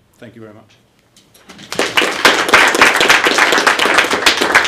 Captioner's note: applause